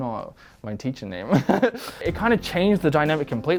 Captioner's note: laughing